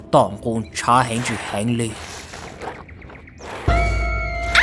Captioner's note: sound of sucking blood